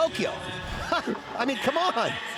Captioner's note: laughs